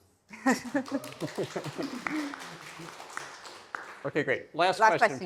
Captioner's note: chuckling; attendees applauding